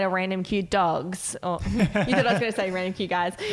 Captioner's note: laughing